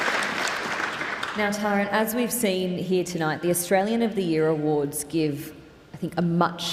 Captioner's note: applause